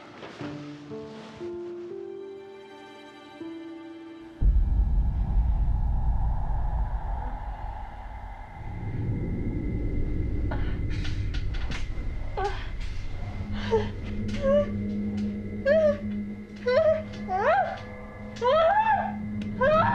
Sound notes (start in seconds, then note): 13.3 Maggie moaning; 18.4 Maggie screaming